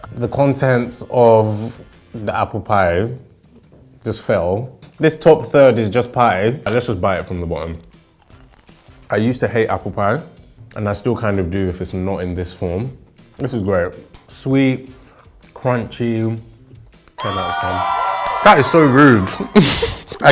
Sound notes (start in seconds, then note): 17.2 bell ringing; 17.2 cheering